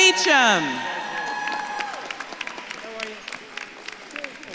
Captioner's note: audience claps and cheers